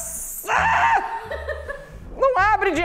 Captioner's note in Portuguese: risadas